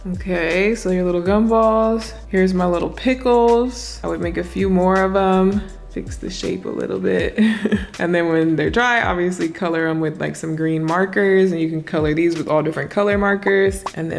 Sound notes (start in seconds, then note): 7.3 giggles